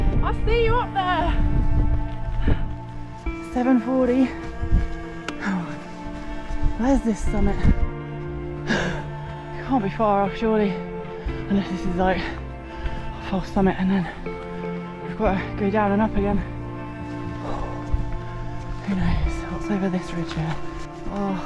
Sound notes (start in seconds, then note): 17.0 huff